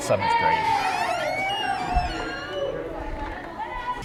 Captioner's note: children cheering